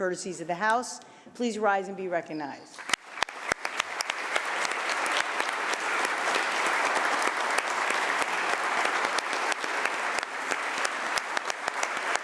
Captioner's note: applause